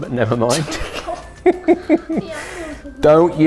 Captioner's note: chuckles